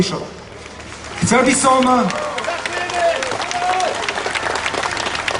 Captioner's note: vox populi shouts "Thank You"